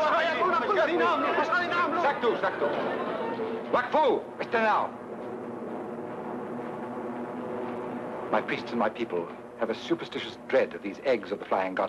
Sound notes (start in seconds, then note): 0.0 crowd screaming; 0.2 people shouting in foreign language; 2.8 speaks foreign language